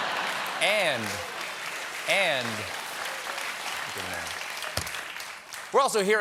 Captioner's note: applause